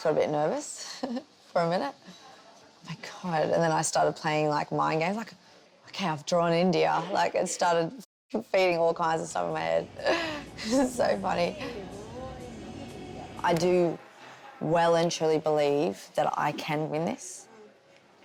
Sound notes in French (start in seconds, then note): 10.0 rigole